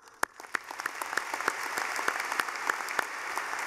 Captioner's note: clapping